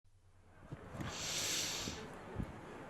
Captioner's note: inhale